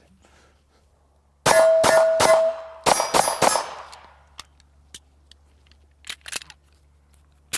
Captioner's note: gun shots